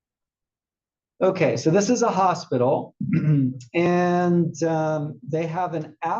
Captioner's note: cough